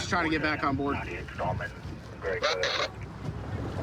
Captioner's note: radio communication